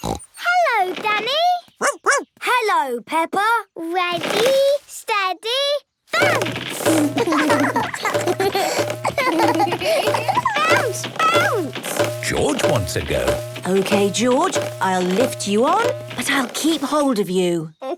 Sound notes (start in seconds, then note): 0.0 snorts; 1.8 barks; 6.9 both laugh